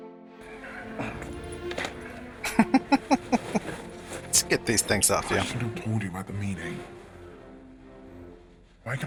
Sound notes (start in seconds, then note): 0.5 laughing